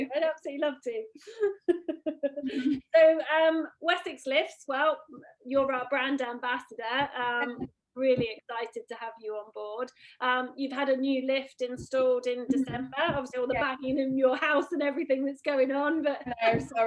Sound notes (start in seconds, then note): 1.5 laughs